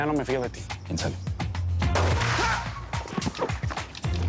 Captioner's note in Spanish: Disparo